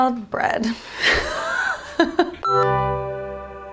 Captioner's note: laughing; light music